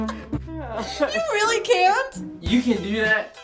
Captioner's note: comical music; sighs